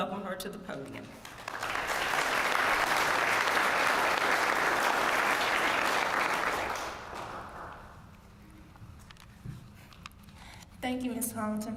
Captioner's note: applause